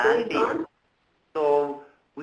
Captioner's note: participants murmuring